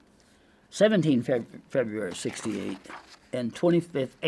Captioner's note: paper crinkling